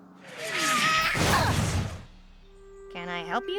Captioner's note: thud!